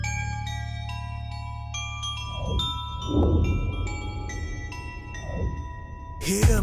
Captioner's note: bells Tinkering